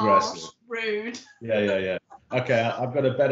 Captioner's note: laughing